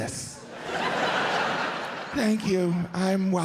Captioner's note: audience laughs